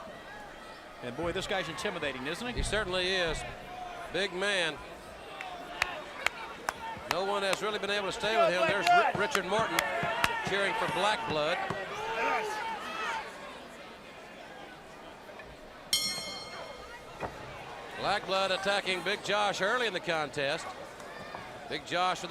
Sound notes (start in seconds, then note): 13.4 bell ringing